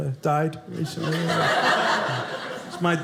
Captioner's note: audience laughing